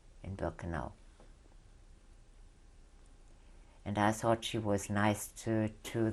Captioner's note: pauses for 3 seconds